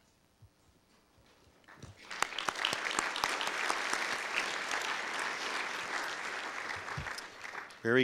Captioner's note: audience applause